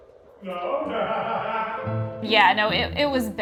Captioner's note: laughs